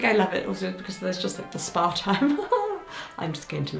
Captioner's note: chuckles